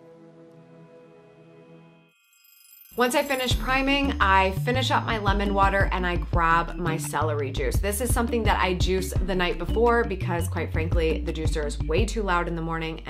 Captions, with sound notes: (bell rings) - Once I finished priming, I finish up my lemon water and I grab my celery juice. This is something that I juice the night before because quite frankly, the juicer is way too loud in the morning